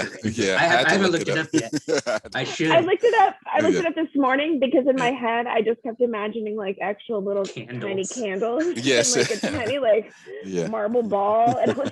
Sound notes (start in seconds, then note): 1.8 laughs